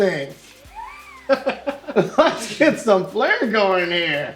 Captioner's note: laughs